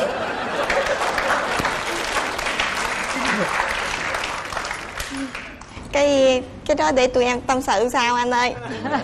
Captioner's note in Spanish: Aplaudir